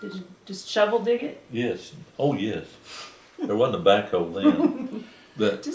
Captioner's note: laughter